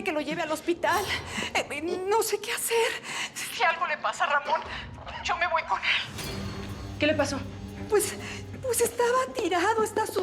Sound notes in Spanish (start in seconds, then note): none